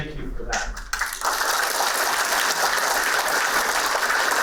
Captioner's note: applauding